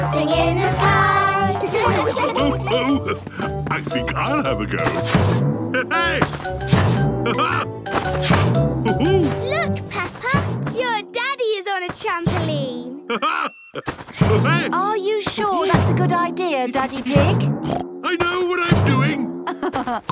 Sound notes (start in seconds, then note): 1.2 laughs; 5.6 laughs; 13.0 laughs; 18.0 snorts